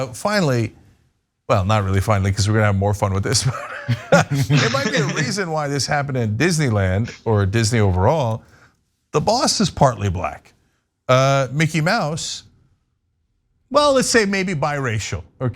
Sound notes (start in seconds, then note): 3.4 laugh